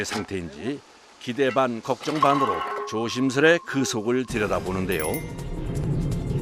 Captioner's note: manhole opening